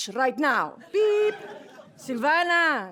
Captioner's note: laughter